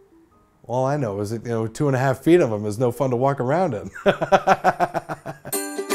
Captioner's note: music fades out; laughs